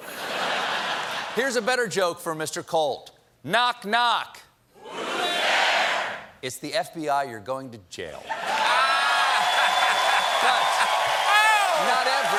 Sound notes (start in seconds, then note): 0.0 laughter; 8.2 cheers and applause; 8.3 laughter